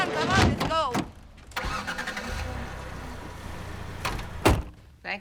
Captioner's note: engine starts